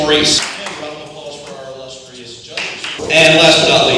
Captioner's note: slight clap